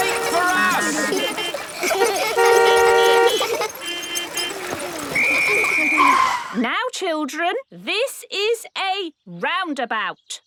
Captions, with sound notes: - Wait for us! (laughter) (beeping) (laughter) (whistle blowing) - Now, children, this is a roundabout.